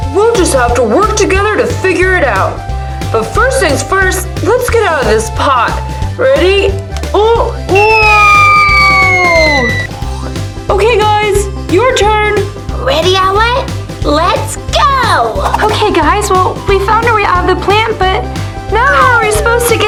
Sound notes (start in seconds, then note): 7.7 falling whistling; 9.9 spring boings